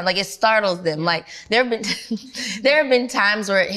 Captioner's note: laughs